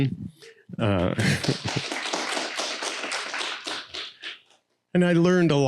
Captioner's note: audience Applauding